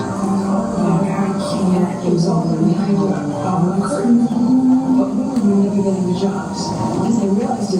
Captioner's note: female voice in English